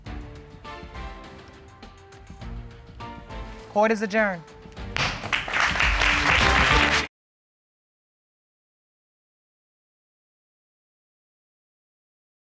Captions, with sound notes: [dramatic music playing] Court is adjourned. [audience applauding]